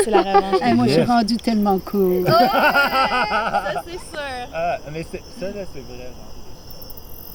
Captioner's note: laughs